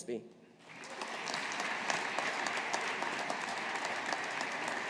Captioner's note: audience applauding